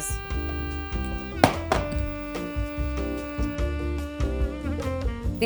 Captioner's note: tomatoes thud